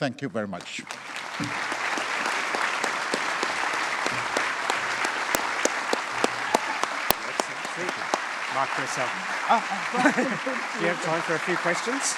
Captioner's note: applause